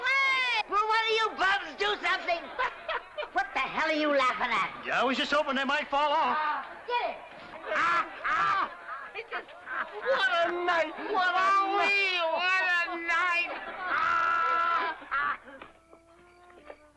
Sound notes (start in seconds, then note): 7.6 hard laughter; 13.2 hard laughter